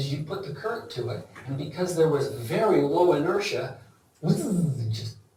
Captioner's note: makes buzzing sound